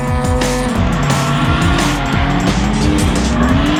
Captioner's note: engine revs; tires squealing